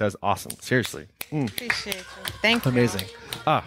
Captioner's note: applauding